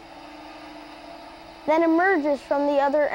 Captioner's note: mechanical noise